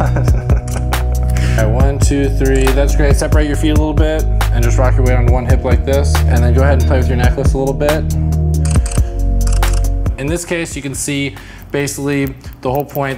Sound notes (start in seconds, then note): 0.0 laughs; 9.4 camera clicks